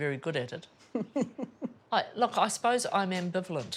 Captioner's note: giggles